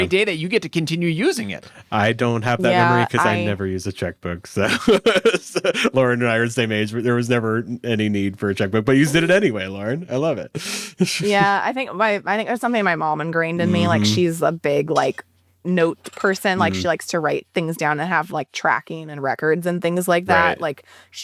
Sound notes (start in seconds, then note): 4.6 laughs